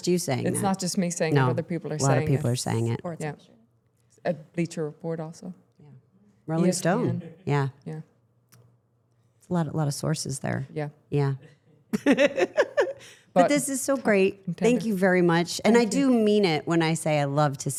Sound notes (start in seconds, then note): 11.9 chuckles